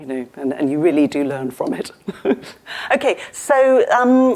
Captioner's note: laughs